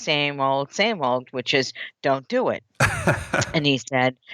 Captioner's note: laughs